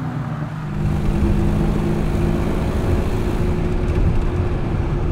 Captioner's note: engine humming